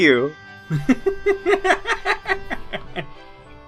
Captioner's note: gnome laughs